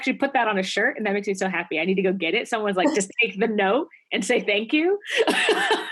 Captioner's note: laugh